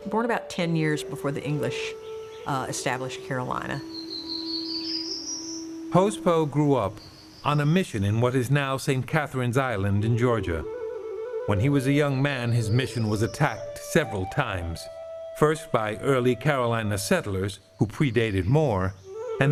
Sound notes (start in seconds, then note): 4.3 birds chirping